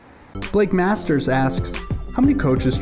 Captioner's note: voiceover